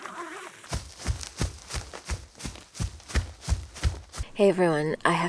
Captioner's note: running footsteps